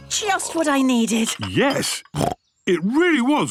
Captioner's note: snorts